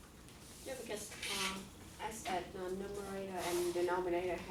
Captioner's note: voiceover